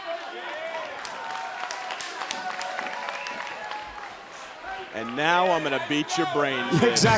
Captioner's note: crowd chatter